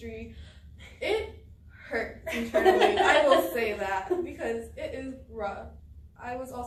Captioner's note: all laugh